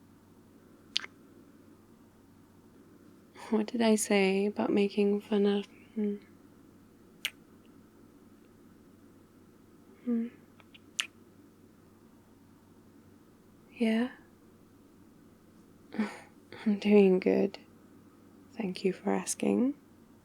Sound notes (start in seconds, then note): 0.9 kiss; 7.2 kiss; 10.6 kiss; 15.9 laughs